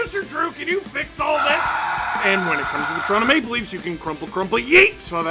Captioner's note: screaming